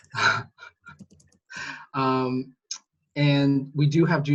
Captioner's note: laughs